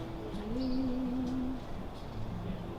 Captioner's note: hums softly